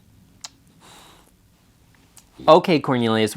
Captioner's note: lips smacks